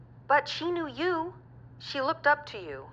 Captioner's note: none